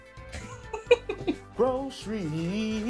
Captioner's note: laughter